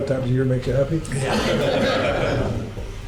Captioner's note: laughs